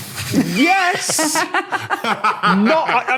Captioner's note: laugh